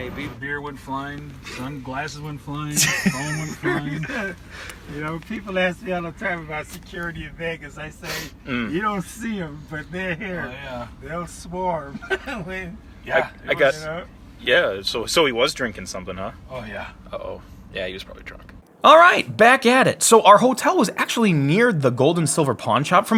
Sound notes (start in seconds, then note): 2.7 laughs